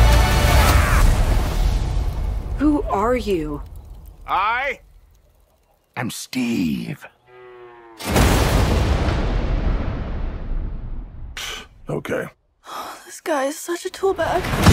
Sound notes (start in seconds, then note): 7.2 distant cow moo-ing; 8.0 thunder crash